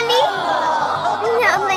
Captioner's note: audience groaning